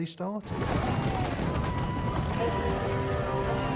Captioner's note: shouting